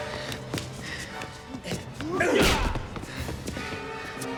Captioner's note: Dalton grunts; blows thudding; tense music